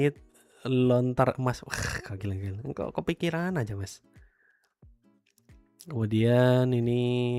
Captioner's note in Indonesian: tertawa